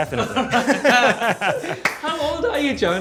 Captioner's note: both laugh